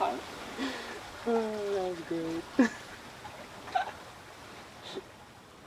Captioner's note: continues laughing